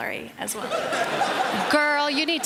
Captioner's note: laughter